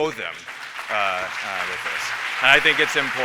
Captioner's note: applause